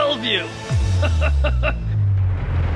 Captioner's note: laughing